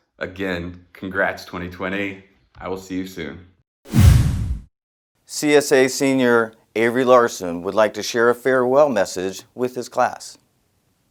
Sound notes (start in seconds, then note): 3.8 whoosh; 3.9 resonating boom